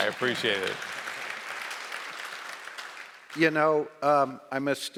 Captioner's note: audience applauding